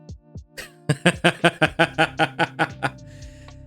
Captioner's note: laughing